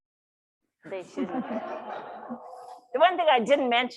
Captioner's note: audience laughs